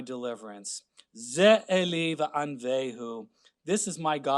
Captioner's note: speaking Hebrew